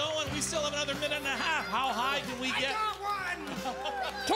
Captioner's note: applause